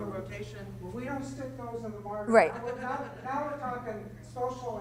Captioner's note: voiceover